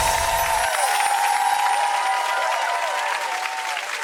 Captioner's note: crowd cheering